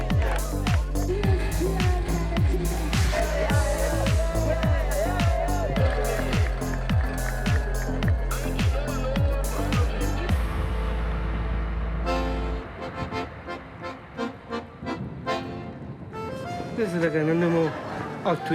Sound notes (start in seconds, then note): 2.1 upbeat music; 4.6 all cheer; 12.1 accordion music